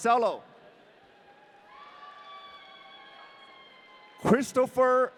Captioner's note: audience cheering